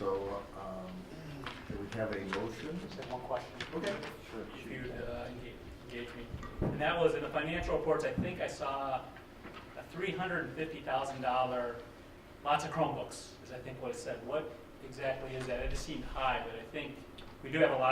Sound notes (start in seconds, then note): none